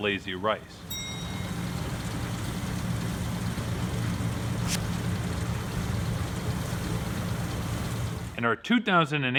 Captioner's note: harvester sounds